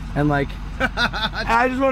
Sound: laughing

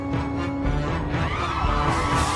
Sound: music builds; people scream

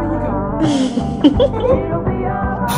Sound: laughing

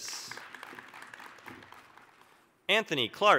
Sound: applause

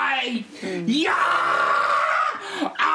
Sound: screams

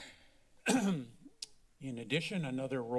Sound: clears throat

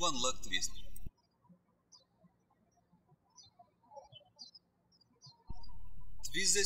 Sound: birds chirping

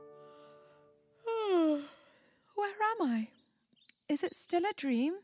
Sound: yawns

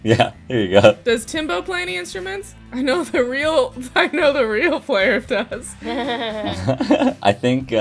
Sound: laughter

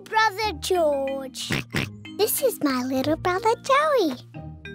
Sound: oinks

